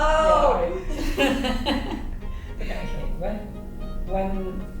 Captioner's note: laughing